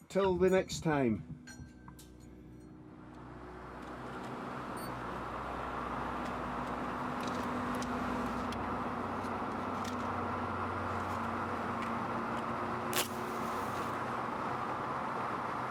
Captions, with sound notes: Till the next time. (car engine humming) (match strikes)